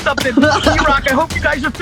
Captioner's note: laughing